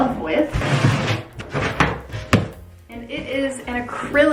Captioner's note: box scrapes